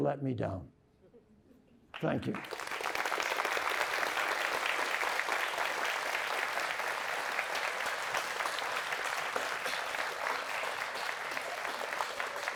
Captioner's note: applause